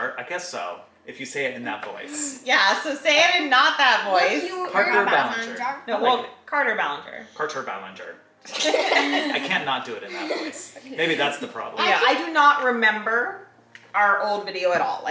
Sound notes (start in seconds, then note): 8.4 kids laughing